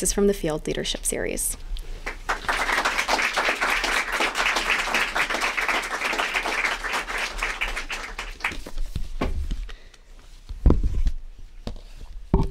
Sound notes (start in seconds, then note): 2.0 applause